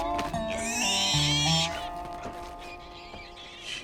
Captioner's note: pig squeals